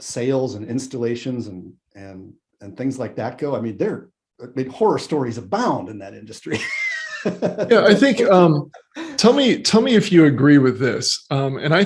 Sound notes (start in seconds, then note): 5.9 laughs